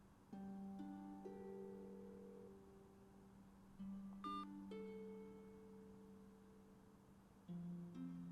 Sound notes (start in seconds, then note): 4.2 phone beeping